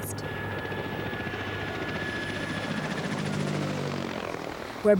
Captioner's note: helicopter whirrling